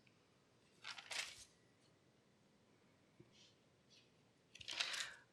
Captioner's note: papers turning